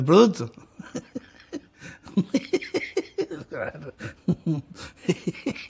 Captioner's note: laughs